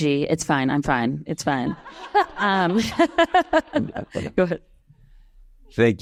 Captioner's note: chuckles